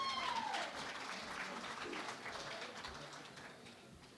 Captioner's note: cheering and Applause